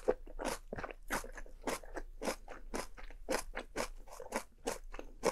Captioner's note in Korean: 와작 와자작 김치소리... 🥰